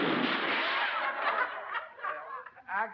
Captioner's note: laughter